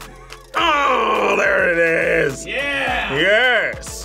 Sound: laughs; grunts

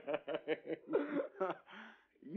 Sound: laughing

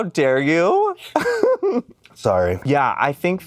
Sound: laughs

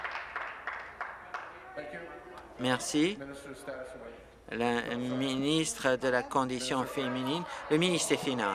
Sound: applause

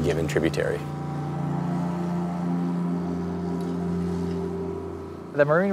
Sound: gentle music; motor buzzing

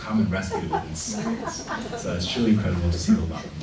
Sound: laughing

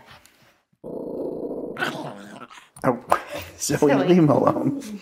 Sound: dog growling

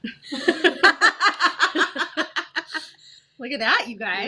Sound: both laugh

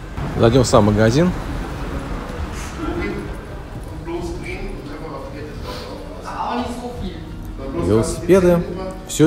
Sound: German speech is heard

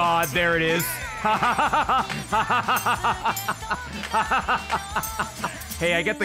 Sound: laughs

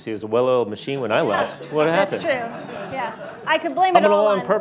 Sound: laughs; laughter

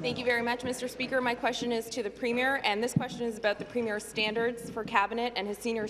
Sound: some Applause

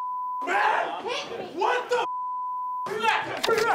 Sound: beep

